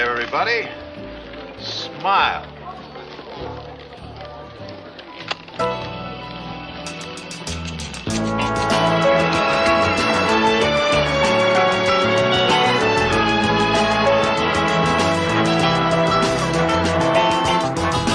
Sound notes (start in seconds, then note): 5.6 camera clicking; 6.7 light music